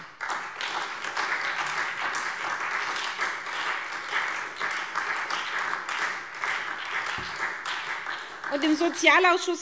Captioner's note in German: Beifall SPD und Freie Demokraten